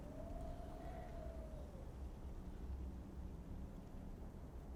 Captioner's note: wind blowing